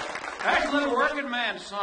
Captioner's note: audience applauds